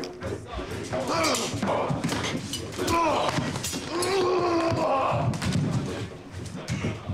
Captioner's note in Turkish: Bağırma sesi